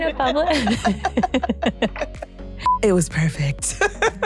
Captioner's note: laughter